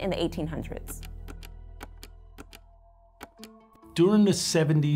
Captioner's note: mouse clicking